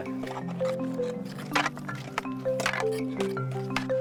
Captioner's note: tools clank